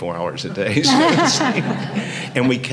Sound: audience chuckling

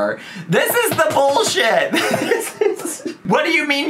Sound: laughs

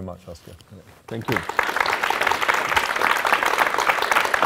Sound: applause

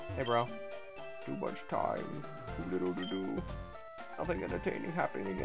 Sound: deep voice

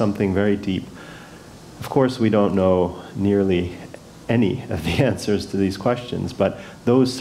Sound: laugh

